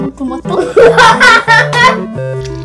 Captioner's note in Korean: 웃음